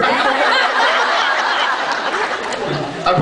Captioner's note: laughs